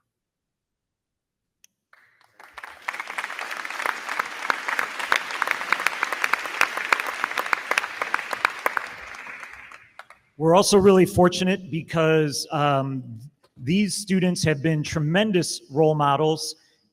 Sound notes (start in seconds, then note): 1.9 crowd clapping; 2.2 crowd cheering